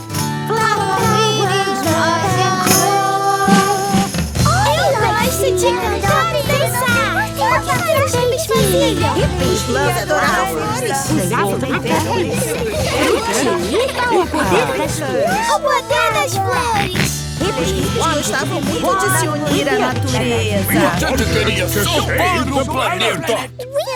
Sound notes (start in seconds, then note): 16.4 George snorts